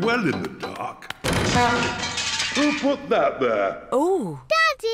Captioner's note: crashing